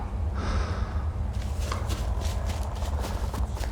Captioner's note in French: soupir